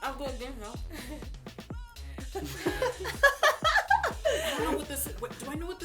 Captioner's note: laughter